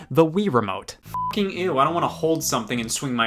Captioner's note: beep